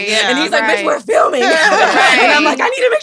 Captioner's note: laughs